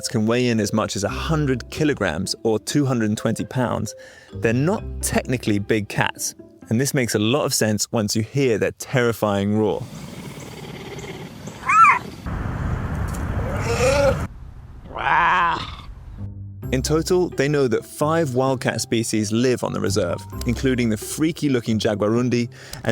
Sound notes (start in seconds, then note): 13.4 puma meows; 13.8 puma squeaks